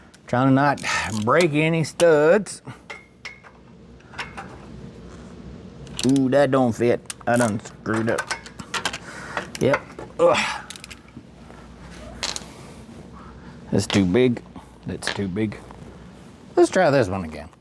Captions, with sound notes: Trying to not break any studs. Ooh, that don't fit. I done screwed up. Yep. (Grunts) That's too big, that's too big. Let's try this one again.